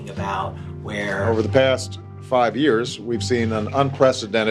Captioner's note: soundbite of archived recording